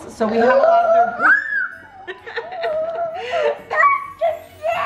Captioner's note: squeals in delight